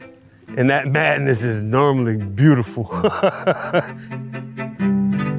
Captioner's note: laughs